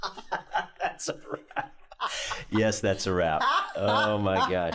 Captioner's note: laughing